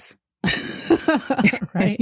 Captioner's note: laughter